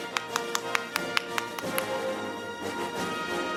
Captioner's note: camera shatters; audience applauding; orchestral music